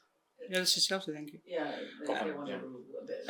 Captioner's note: in English